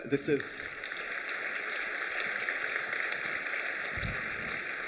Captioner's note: applause